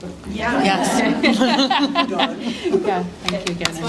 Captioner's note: laughter